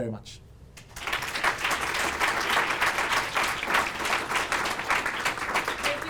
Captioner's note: applause